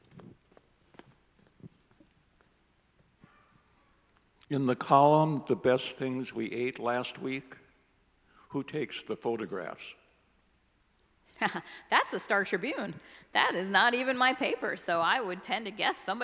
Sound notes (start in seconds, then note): 11.5 laughs